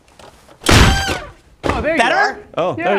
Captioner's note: thuds